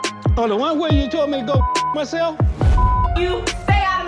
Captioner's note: beeping